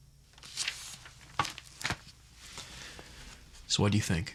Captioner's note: pages rustle